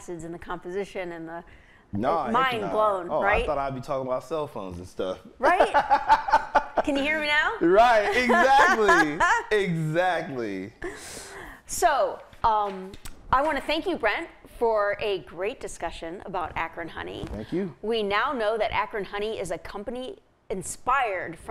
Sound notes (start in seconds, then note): 5.4 laughing